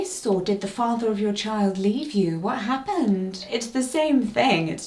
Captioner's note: none